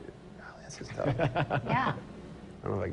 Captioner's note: laughs